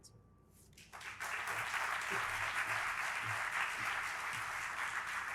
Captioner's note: audience applauding